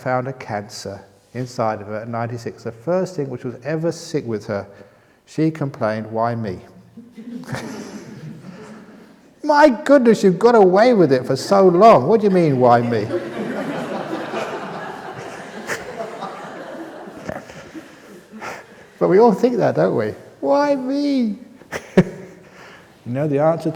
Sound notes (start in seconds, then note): 7.2 laughter